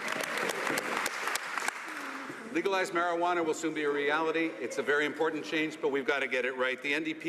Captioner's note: some Applause